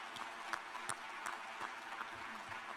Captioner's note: applause